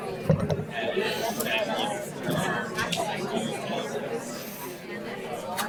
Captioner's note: audience talking among themselves